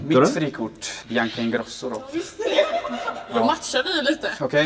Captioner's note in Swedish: fniss